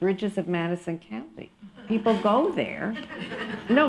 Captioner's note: laughter